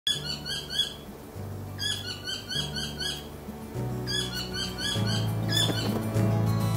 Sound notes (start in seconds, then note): 1.7 Tieke/saddleback calling; 3.6 music gets louder